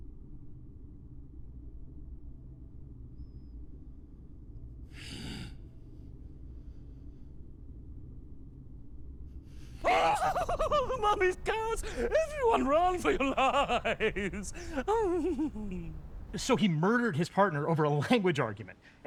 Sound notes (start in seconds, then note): 10.0 yelling; 13.7 laughs maniacally